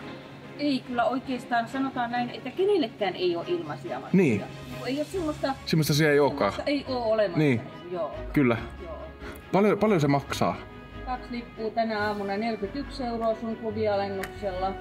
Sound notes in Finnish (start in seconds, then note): none